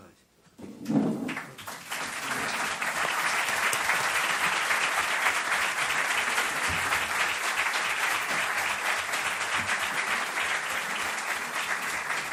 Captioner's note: applauses